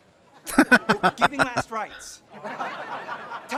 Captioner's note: laughing